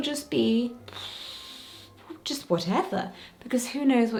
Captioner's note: exhaling